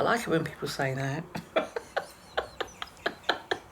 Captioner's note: laughing